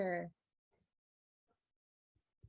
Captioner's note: silence